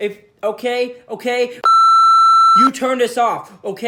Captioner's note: pitido